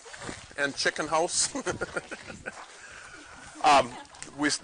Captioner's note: chuckles